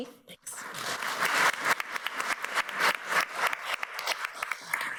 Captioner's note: audience applauds